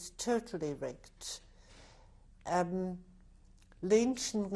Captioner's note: pauses for 3 seconds